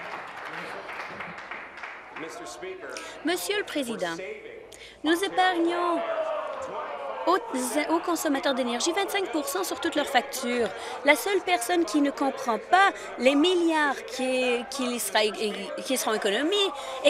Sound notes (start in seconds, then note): 2.5 applause